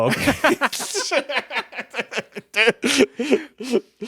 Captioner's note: both laugh